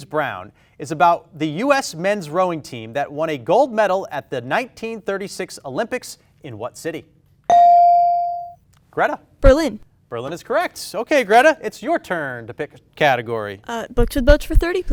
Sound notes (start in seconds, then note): 7.5 bell dings